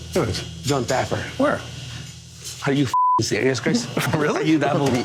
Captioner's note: beep